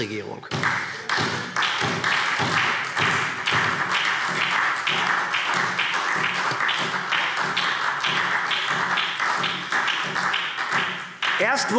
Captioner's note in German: Beifall SPD und vereinzelt DIE LINKE